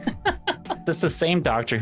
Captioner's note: laughing